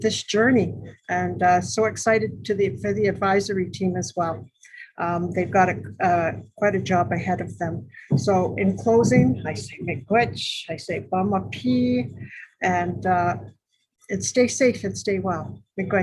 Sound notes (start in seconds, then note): 9.7 speaking in foreign language